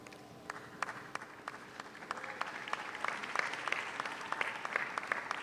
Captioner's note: audience applauds